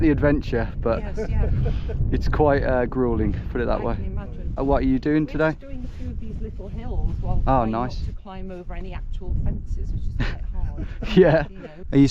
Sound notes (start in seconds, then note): 0.8 man laughing; 10.2 laughing